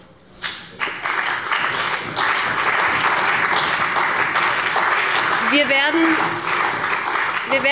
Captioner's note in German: Beifall bei dem BÜNDNIS 90/DIE GRÜNEN und der CDU